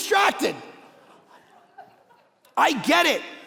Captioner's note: congregation laughing